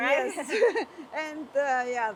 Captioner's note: chuckling